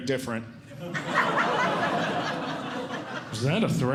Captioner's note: audience Laughing